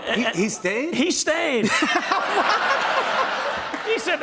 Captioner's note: laughter and applause